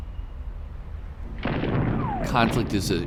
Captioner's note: bomb exploding